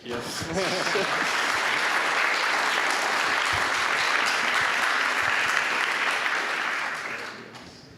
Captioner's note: applause